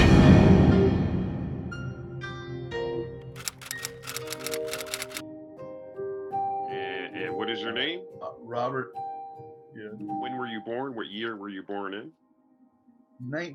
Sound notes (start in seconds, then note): 3.3 typewriter clicking